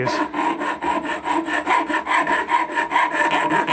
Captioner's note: filing metal